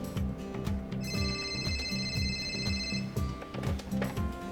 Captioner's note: phone ringing